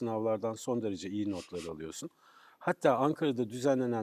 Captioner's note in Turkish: homurdanır